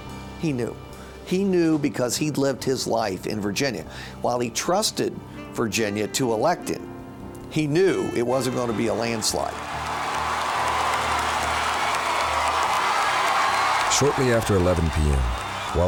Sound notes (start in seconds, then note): 8.8 audience cheering; 9.0 audience applauding